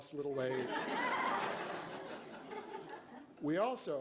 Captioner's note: crowd laughs